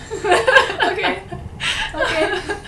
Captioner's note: laughs